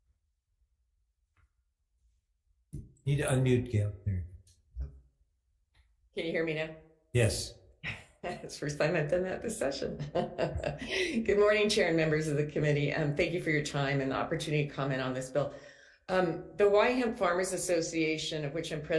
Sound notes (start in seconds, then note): 9.8 laughing